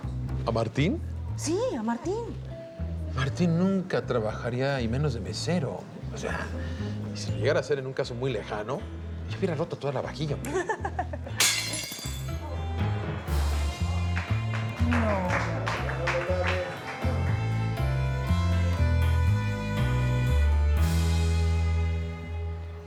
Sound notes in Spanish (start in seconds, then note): 10.4 Risas; 11.4 Platos caen al piso; 16.2 Aplausos